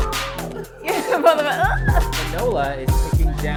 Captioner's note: laughter